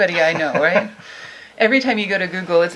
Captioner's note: laughing